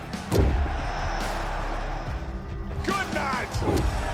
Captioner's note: crowd cheering; ring thumps